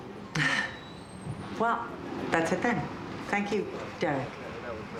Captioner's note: sighs